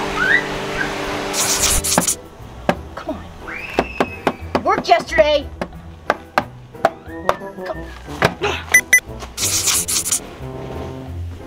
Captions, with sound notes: Come on. It worked yesterday. (grunts) (machine beeps)